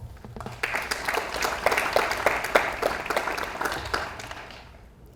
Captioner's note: audience applauds